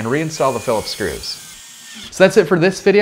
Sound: drilling

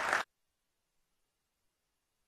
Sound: applause

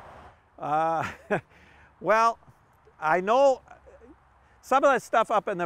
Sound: laughs

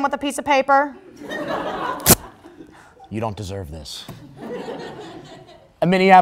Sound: crowd Laugh

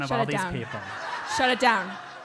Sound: laugh

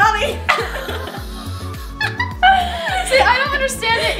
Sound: laughs

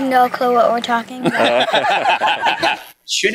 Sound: laughs

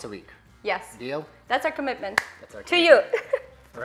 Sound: laughs

